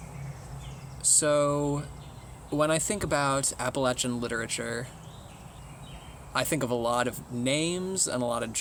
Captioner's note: birds chirping